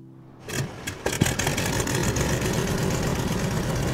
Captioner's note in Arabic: صوت المحرك